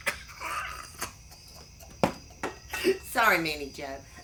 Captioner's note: laughs